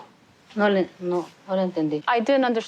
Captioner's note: speaking Spanish